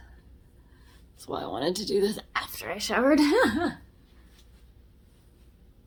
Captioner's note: laughs